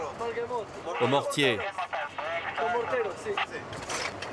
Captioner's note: French spoken audio